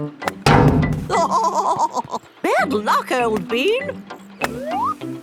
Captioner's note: laughing